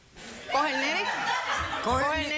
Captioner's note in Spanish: carcajadas